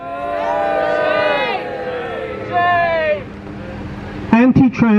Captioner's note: crowd Boos